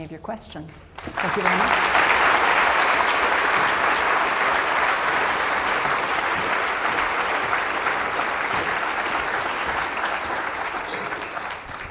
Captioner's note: applause